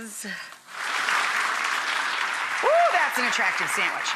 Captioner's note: audience applause